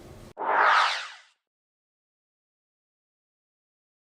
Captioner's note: flyby swoosh